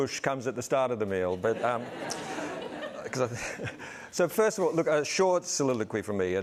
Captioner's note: laughter